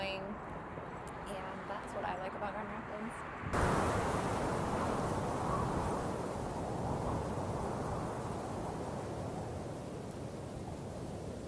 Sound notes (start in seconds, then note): 3.5 wind howling